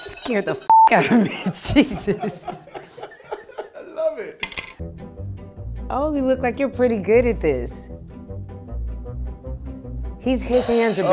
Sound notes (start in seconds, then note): 1.0 laughing